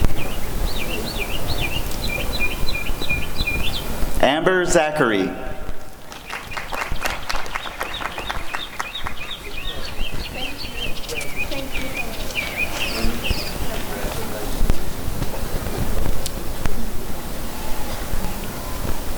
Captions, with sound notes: Amber Zachery [applause and cheering] [birds chirping]